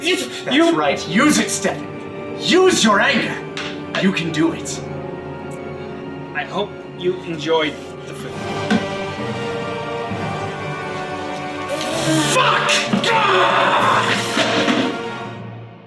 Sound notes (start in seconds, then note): 11.6 frustrated groan